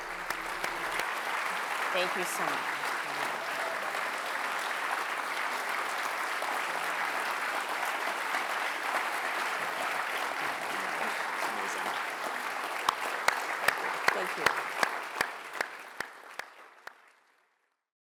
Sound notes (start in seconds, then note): 0.0 applause; 15.0 applause